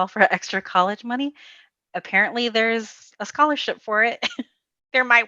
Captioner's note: giggles